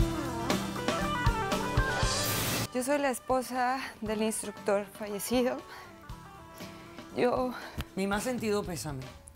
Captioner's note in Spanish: llorosa